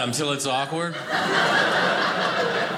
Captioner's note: audience laughing